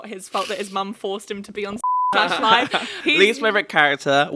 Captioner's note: beep